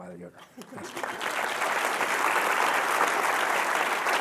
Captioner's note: applause